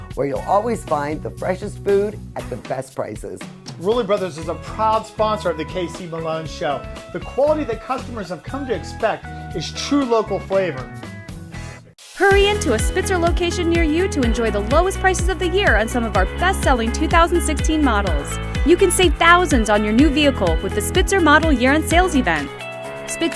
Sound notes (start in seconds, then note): 12.2 voiceover